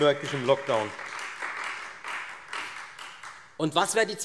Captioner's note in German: Beifall Freie Demokraten